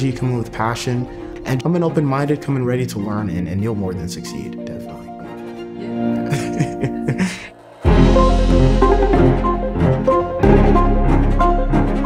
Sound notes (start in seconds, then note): 5.7 laughs; 7.3 upbeat music